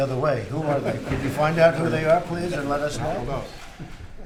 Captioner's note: laughter